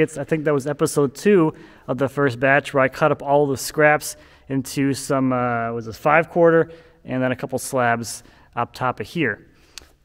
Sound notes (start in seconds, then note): none